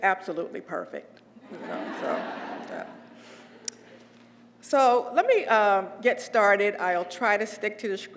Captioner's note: laugh